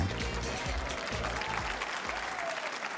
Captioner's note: applause